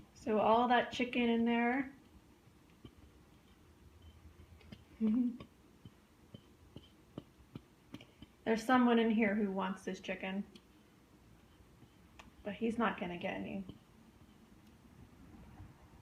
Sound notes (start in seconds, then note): 5.0 laughs; 6.6 tiny pawsteps nearby